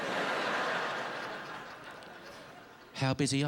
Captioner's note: laughter